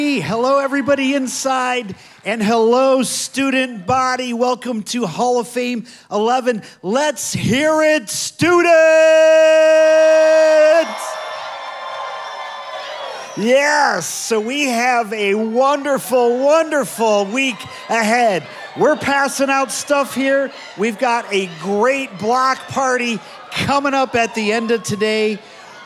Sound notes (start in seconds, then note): 9.9 audience applauding